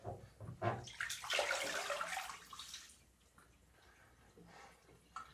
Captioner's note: water splashing